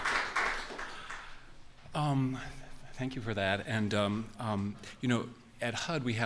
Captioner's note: applause